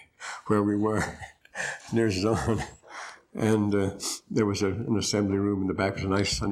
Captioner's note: laughter